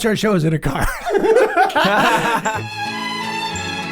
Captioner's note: all laugh; soft music plays